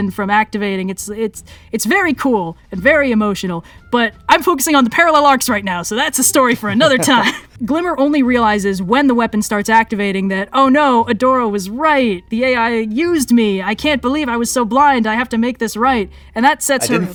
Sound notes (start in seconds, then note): 6.4 laughs